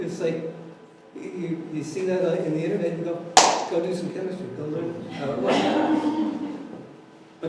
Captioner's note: clap